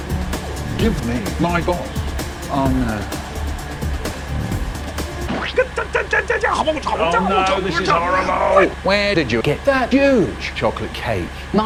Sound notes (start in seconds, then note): 5.2 splat